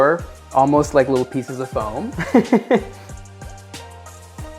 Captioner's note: laughing